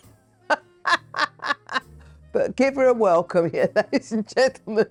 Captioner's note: laughs